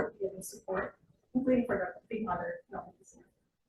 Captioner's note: speaking faintly